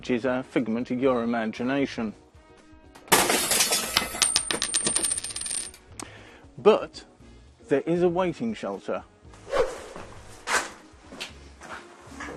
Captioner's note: sound effect of metal rubbish being dropped